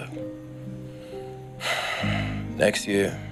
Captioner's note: sighs